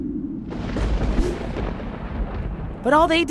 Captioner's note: wind and thunder